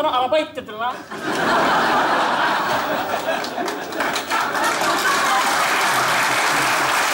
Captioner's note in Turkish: Kahkaha ve alkış sesleri